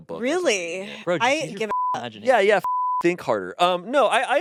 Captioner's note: beep